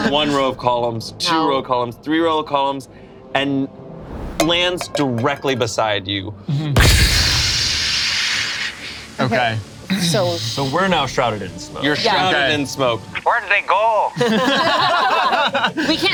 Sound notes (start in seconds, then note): 6.6 imitates explosion; 14.1 group laughs